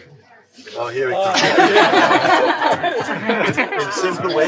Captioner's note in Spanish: risas